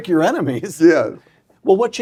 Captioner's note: laugh